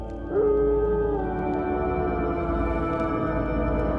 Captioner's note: wolf howling